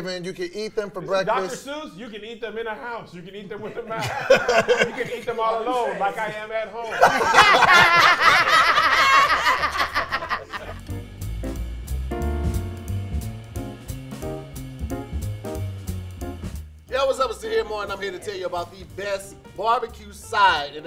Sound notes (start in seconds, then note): 6.8 laughing; 10.6 upbeat jazz music